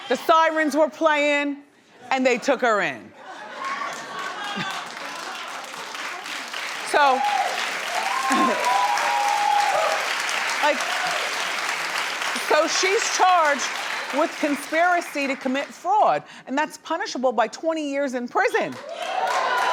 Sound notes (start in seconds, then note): 4.1 audience cheering